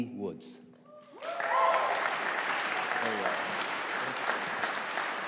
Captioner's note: audience applauding